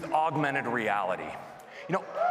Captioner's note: applause and cheering